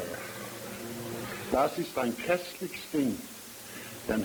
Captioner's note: German language verse